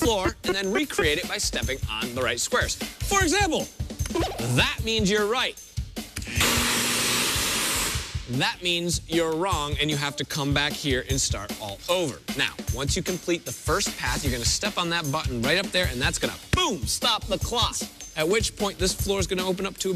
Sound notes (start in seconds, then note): 3.9 boing; 6.4 steam hissing